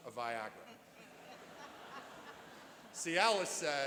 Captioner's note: laughing